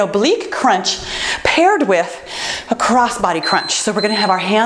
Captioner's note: timer beeps